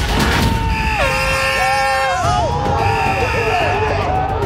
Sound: air horn blaring

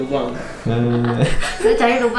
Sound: laughs

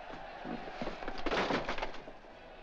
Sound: crowd cheers outside; books clattering

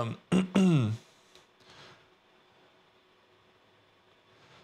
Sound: clears throat

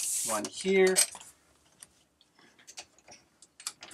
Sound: clicking

